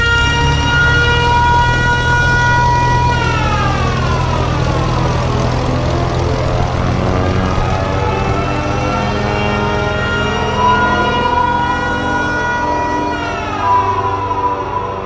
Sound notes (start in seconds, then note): 11.6 continue air raid sirens wailing